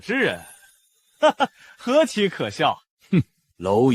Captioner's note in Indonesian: Haha